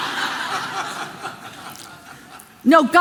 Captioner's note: congregation laughing